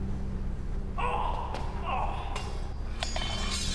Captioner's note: groan